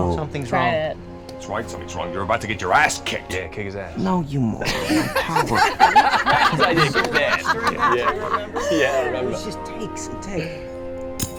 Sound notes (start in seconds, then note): 4.6 cast laughing